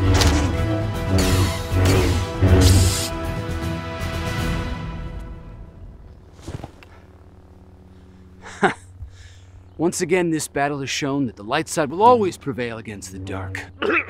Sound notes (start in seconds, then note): 0.0 lightsaber slashes